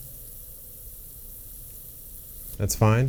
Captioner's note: spray bottle spritzing